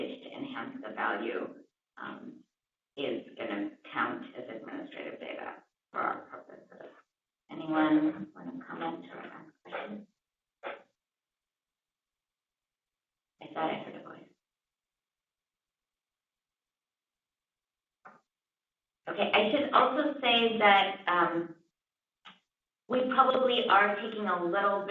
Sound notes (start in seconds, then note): 9.7 pause